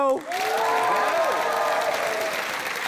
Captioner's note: cheering, applause